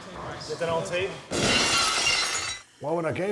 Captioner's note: glass shatters